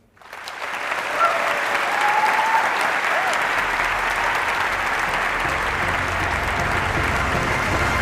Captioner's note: applause